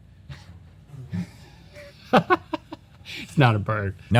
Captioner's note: laughter